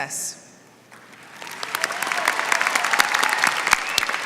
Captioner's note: applause